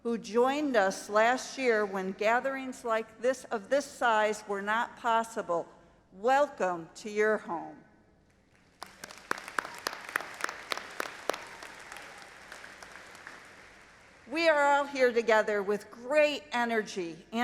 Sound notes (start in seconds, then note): 8.6 audience applauding